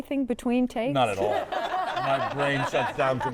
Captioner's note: all laughing